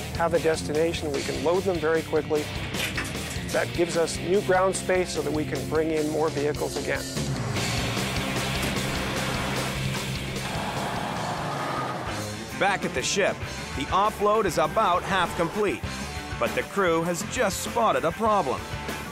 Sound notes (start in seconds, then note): 7.3 lorry engine revving